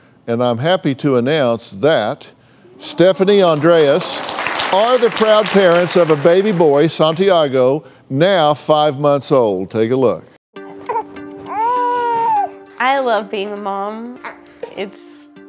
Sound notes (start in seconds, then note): 11.4 baby cries